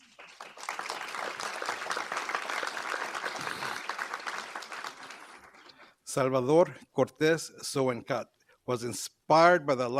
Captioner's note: applause